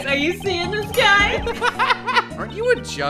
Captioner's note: laughter